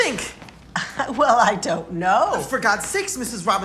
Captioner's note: laughs